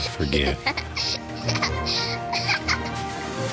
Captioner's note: emily laughing